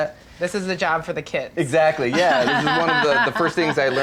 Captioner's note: laughs